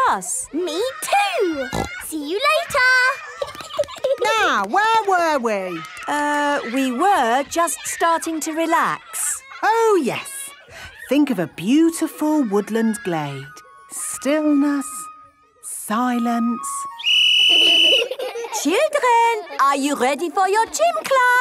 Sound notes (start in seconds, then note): 1.6 snorting; 3.2 giggling; 16.9 whistle blowing; 17.4 laughter